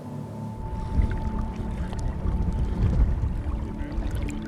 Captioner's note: water rushing